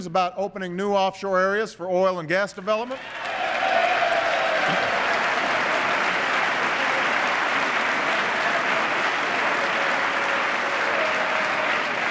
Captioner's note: applause